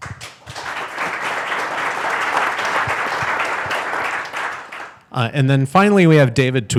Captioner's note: audience applauds